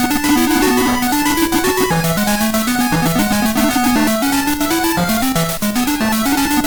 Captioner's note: laugh